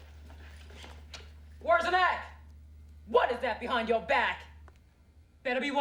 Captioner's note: yelling